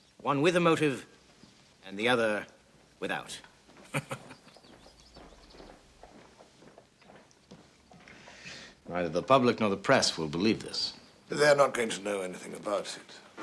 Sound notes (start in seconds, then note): 3.8 chuckles